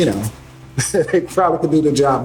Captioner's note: laughs